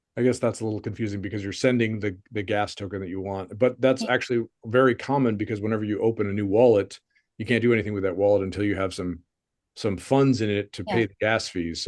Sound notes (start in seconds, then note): none